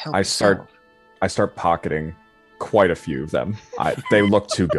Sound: laughing

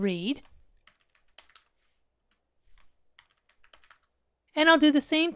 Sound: keyboard clanking

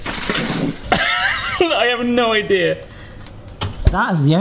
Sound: laughs

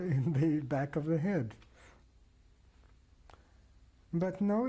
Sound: pauses for 3 seconds

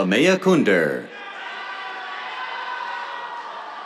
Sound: cheers

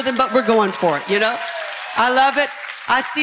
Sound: congregation clapping

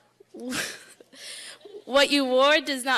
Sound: laughing

